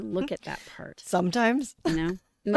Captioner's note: laughter